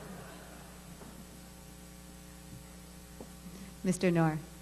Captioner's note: laughter